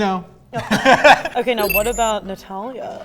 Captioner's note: both laughing